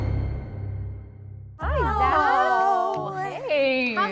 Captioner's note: intense music; women greeting